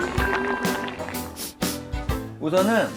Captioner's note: sniff